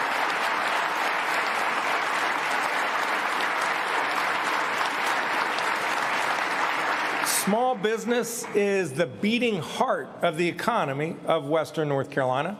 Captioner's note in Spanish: aplausos